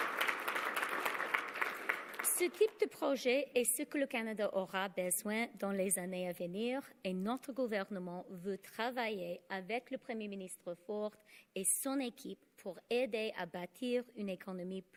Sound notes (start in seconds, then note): 0.0 applause; 4.3 speaking French